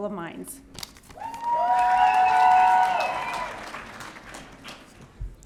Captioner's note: audience cheering